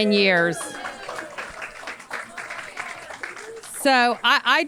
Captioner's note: audience cheers and applauds